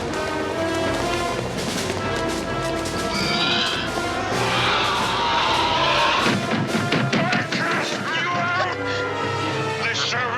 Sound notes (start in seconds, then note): 3.6 gun Fires; 4.2 screaming